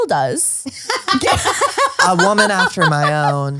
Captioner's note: laughs